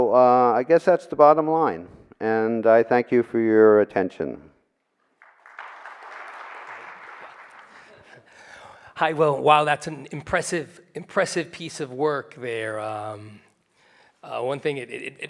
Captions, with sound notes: I guess that's the bottom line, and I thank you for your attention. (audience applauding) - While that's an impressive piece of work there.